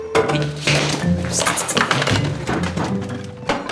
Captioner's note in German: Es poltert